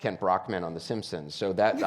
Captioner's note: laughs